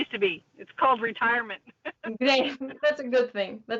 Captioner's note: laughs